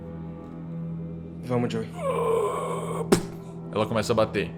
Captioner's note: groaning